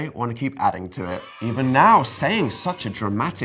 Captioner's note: children screaming